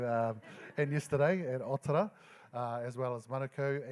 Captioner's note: laughing